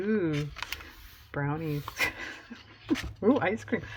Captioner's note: laughs